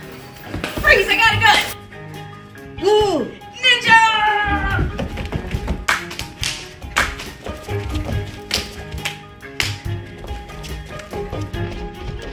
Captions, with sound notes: - Freeze, I got a gun. - Blue! - Ninja! (footsteps falling) (hands clapping)